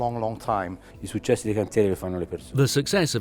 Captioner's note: speaking in foreign language